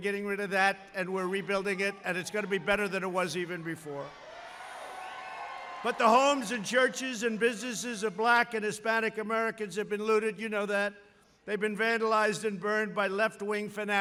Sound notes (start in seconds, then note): 4.2 applause